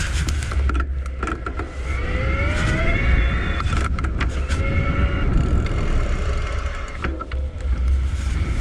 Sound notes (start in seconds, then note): 2.3 motor humming; 5.9 wind gushing